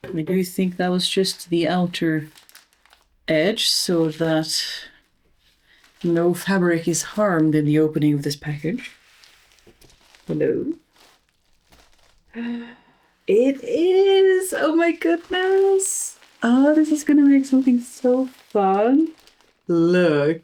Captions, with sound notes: I do think that was just the outer edge, so that no fabric is harmed in the opening of this package. Hello? (gasps softly) It is! Oh my goodness! Oh this is gonna make something so fun. Look!